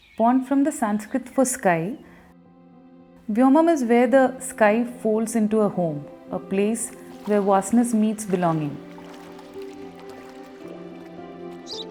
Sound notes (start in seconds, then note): 9.0 water lapping